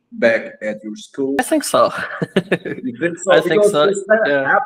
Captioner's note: laughs